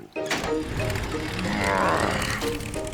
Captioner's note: engine starts